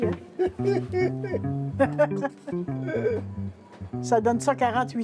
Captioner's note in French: rires